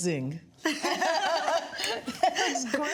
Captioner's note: laughter